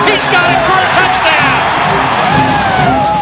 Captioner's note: crowd cheering